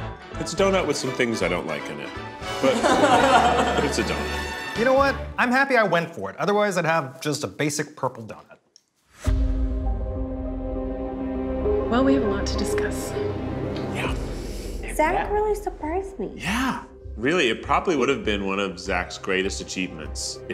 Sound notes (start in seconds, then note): 2.5 group laughs